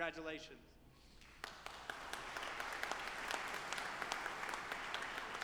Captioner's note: audience applauding